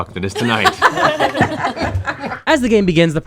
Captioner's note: laughter